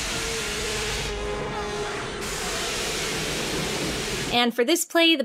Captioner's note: Chewbacca roaring